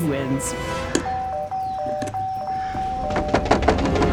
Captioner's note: rings doorbell